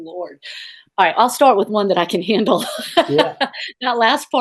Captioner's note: laughs